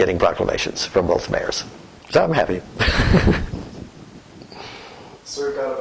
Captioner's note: laughter